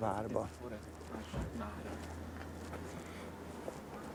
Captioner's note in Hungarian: város halk moraja